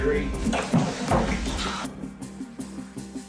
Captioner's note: clatters; thuds